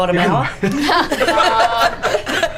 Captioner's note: all laugh